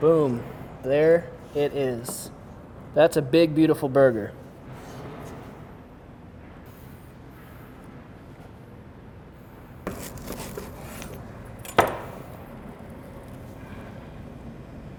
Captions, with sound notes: Boom! There it is. That's a big beautiful burger. (clank)